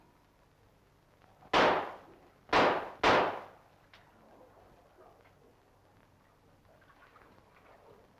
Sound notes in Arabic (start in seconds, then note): 2.5 صوت طلقات نارية